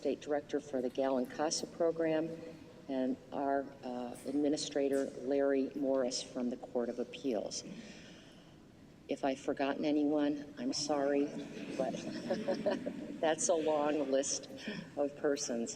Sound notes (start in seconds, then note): 11.4 laughter